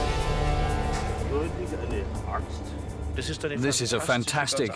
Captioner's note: speaking German